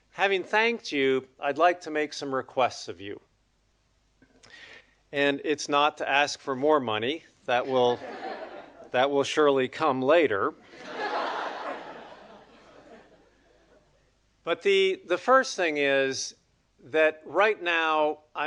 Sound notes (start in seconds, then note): 10.7 audience laughing